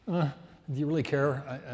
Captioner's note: grunts